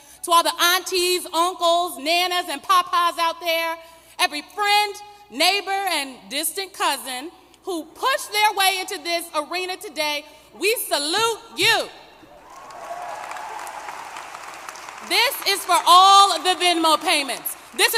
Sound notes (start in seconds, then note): 12.4 applause